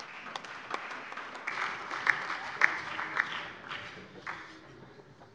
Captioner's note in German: Beifall